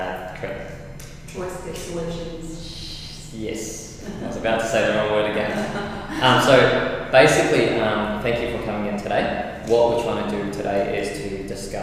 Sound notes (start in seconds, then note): 5.3 laughs